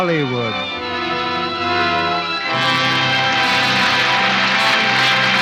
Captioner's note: applause